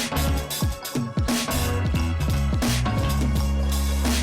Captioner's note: pop diminishes